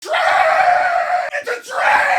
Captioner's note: Harry potter screaming; screaming